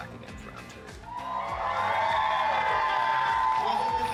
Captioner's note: everyone cheering